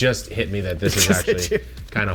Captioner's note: laughing